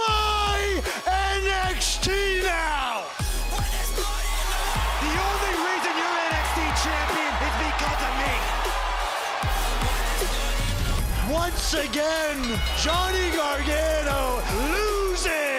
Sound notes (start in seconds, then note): 11.5 cheers and applause